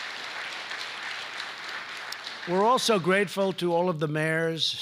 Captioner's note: applause